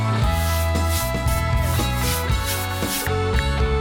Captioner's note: upbeat rock music; brush scraping; ticking